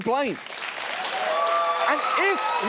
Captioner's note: audience cheers, applauds